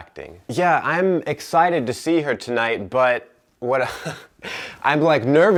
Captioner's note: laughs